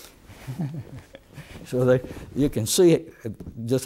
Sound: laughter

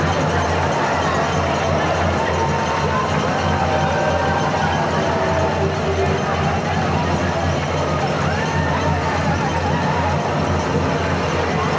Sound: cheering

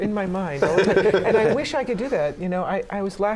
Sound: laughter

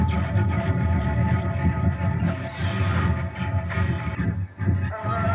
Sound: bird calling

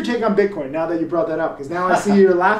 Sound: laughs

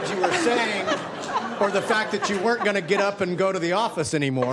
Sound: laughing

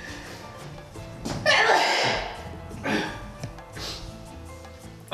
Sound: another high-pitched sneeze

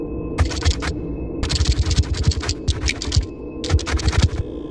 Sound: scorpion scurries

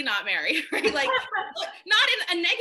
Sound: laughing

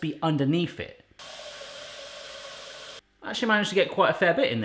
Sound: tap running

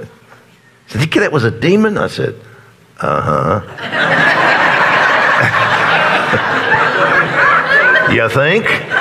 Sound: congregation laughs

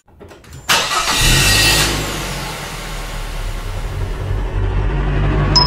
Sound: no dialogue, car starts

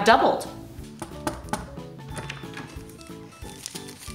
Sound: knock on door; paper crackles

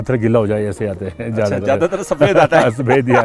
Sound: laughter

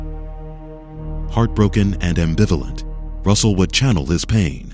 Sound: voiceover

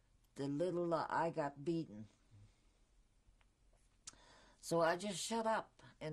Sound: pauses for 3 seconds

